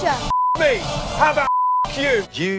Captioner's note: beep